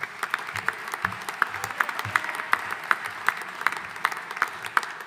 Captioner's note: audience applauding